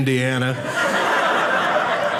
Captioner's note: audience laughing